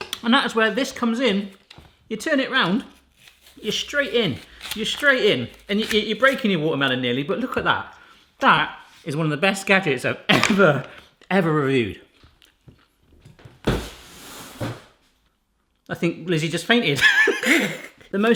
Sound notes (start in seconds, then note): 13.6 cardboard falling; 17.0 laughs